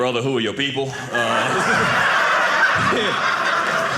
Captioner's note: audience laughing